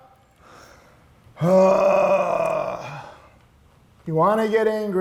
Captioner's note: grunts